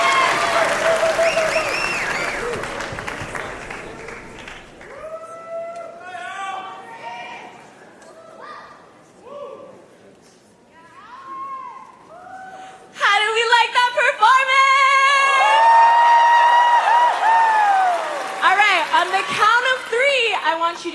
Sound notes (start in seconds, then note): 14.8 cheering; 15.2 applause